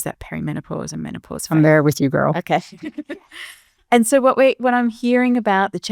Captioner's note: chuckles